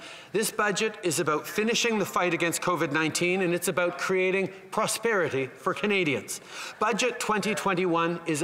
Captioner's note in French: voix de l'interprète